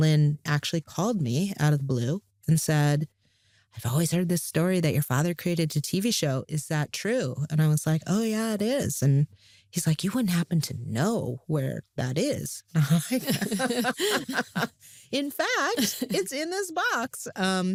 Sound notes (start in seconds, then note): 12.8 both laugh